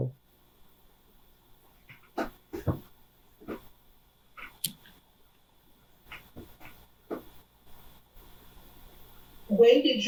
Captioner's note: pauses 8 seconds